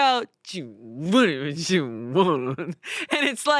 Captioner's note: mumbles